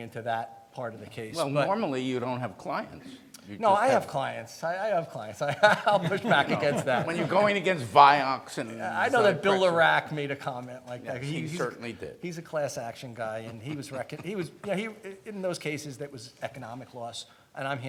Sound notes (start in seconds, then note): 5.4 laughs